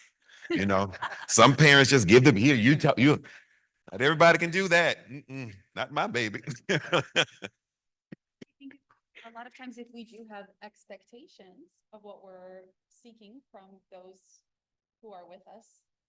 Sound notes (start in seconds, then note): 5.8 laughs